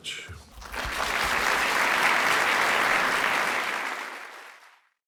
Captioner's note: applause